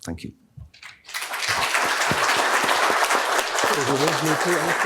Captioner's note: applause